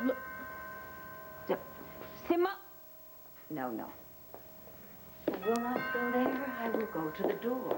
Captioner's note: doorbell rings